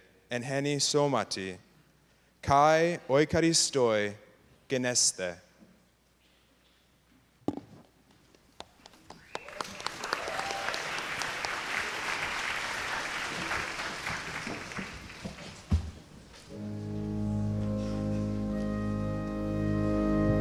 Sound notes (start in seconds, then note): 9.1 applause